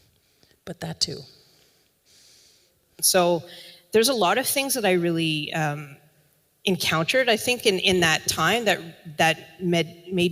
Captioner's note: recording plays